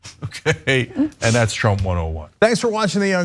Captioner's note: laugh